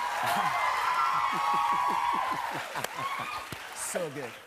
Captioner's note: laughter